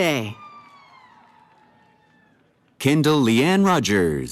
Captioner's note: cheering